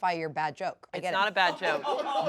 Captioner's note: laughs